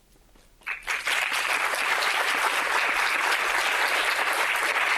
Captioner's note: audience applauding